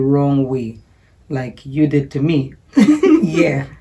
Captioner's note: giggling